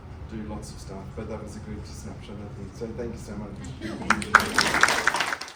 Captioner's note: applause